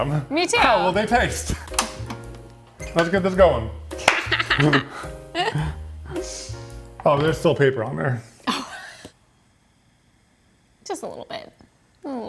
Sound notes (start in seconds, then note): 4.1 both chuckle; 5.4 sniffs; 8.4 chuckles